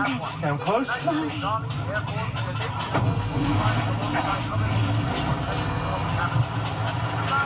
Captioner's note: radio broadcaster chatters